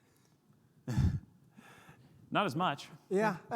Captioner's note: sighs